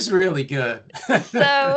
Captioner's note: chuckles